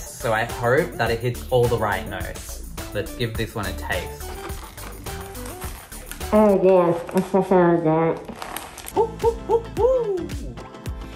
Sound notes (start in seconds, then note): 3.6 crunching; 7.3 muffled by burger; 8.9 whooping